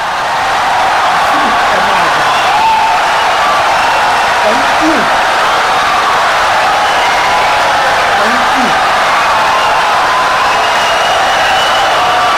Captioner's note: wild applause and cheering for 17 seconds